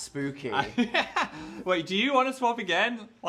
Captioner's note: Phil laughs